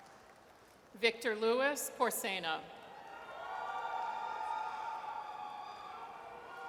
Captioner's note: audience cheers